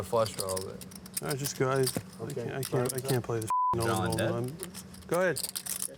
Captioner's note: beep